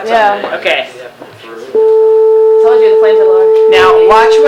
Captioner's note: high pitched tone